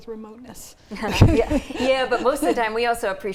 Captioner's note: laughing